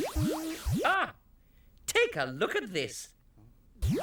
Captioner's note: exclaims